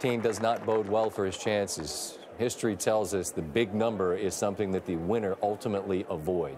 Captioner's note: applause